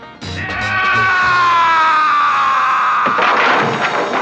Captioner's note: yelling